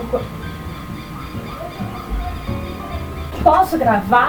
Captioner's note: chirping AGAIN